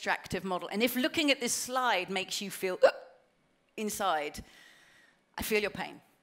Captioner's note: gasp